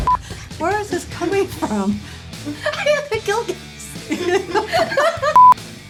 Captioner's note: giggles